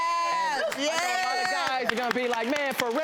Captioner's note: audience claps